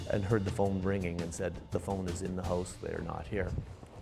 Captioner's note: voiceover